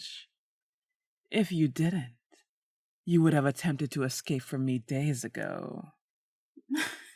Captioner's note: laughter